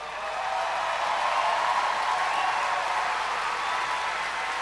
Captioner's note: cheers and applause